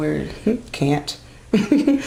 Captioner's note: laughs